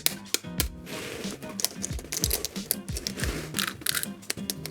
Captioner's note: shell cracking